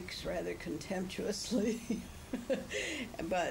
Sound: laughs

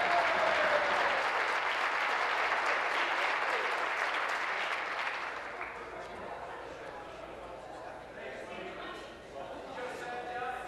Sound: applause

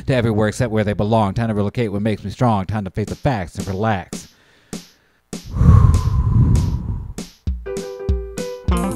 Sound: deep breath

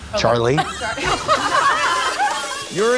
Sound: laughter

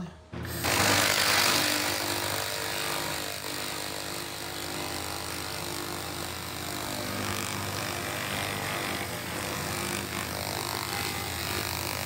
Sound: amazing laser sounds

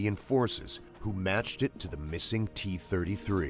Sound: voiceover

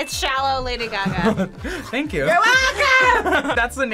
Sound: chuckles

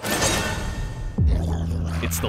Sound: trees growl

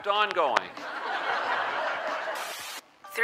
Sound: more crowd laughter

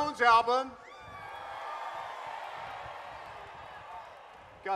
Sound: crowd cheers

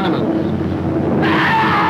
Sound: airplane roar overhead; screams

